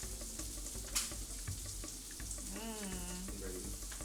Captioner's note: food sizzling